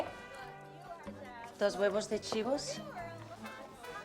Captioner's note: speaking spanish